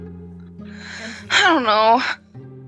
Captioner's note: heavy sigh